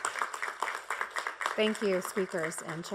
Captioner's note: applause